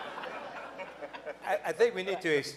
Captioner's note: laughing